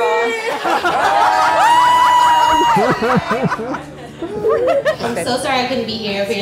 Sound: crowd cheering and clapping

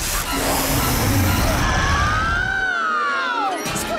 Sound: screaming

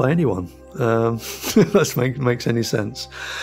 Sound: laughs

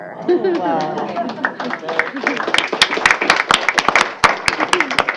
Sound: applause

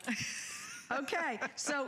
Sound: laughter

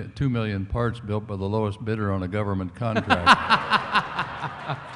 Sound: laughter

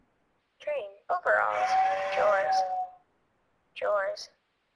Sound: voiceover

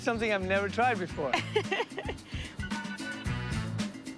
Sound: laughs

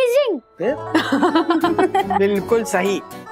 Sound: laughs

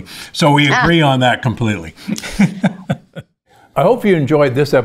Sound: laughs

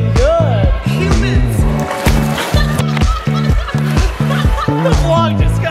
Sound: laughing

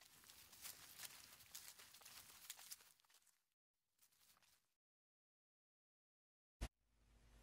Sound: quiet footsteps

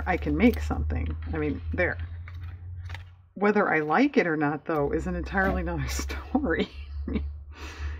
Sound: laughs

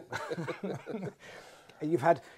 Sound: both laugh

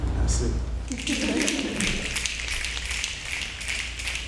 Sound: snapping

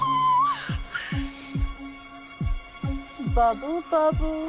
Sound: Catherine squeals

